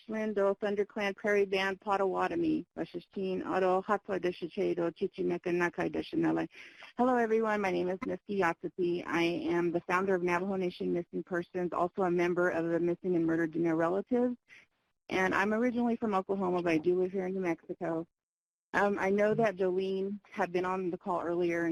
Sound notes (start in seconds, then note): 6.5 speaking Native language